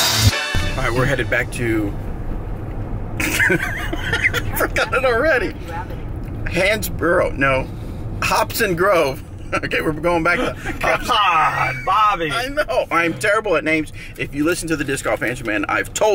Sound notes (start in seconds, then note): 3.2 chuckles